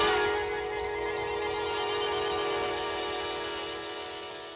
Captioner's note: insects chirping; dramatic instrumental music